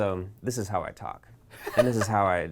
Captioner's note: laughs